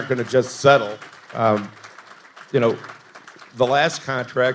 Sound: audience applauding

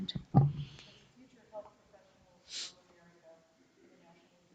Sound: speaks distantly

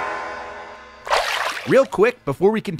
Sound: water splashing

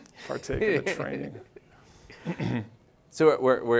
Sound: audience laughs

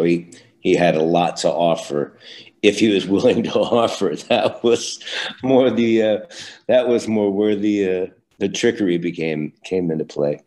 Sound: laughs

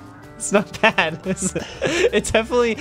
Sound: laughing

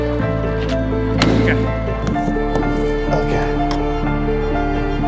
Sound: melancholy light classical music continuing; trailer door banging

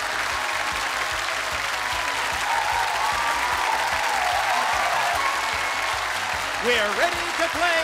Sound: cheers and applause

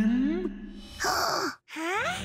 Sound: gasping

